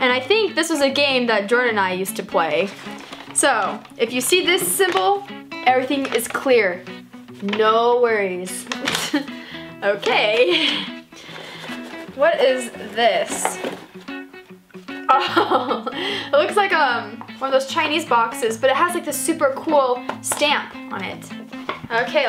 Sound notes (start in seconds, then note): 10.4 laughs; 15.1 laughs